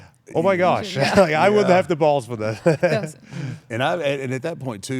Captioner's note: laugh